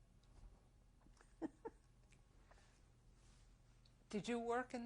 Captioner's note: laughs